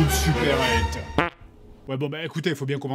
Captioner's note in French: Prout